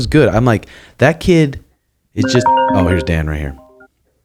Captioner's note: phone chiming